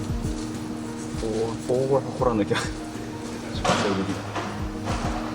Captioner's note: laughs